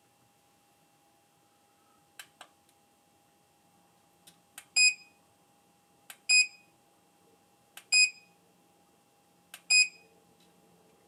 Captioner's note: silence